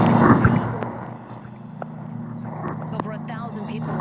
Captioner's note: exhales